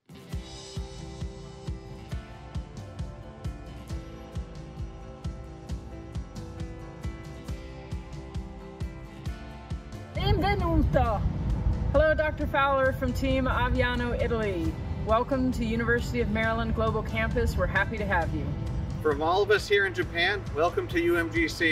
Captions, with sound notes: (upbeat music) (speaking in foreign language) - Hello, Dr. Fowler from team Aviano, Italy. Welcome to University of Maryland Global Campus. We're happy to have you. - From all of us here in Japan. welcome to UMGC.